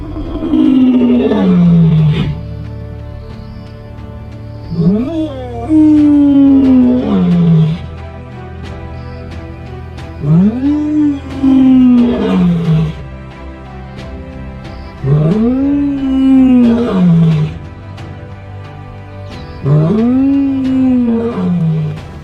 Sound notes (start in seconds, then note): 0.0 lion's Roar; 4.6 lion's Roar; 10.2 lion's Roar; 15.0 lion's Roar; 19.6 lion's Roar